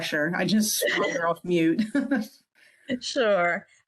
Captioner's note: laughs